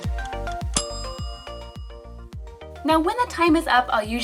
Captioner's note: gentle music; bell dinging